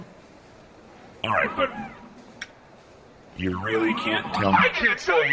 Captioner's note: mechanical tongue-clicking noise